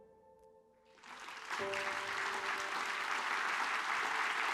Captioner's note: audience applauds